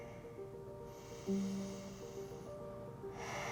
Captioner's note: deep breathing